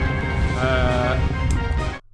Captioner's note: zombie noises